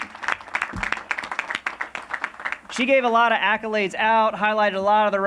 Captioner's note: applause